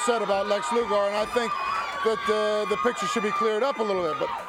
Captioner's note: crowd cheering